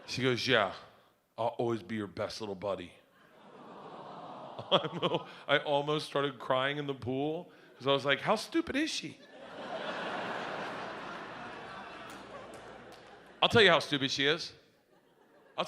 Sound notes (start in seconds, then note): 3.9 audience coos; 9.2 audience laughs